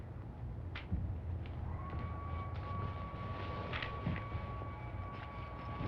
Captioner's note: blow dryer humming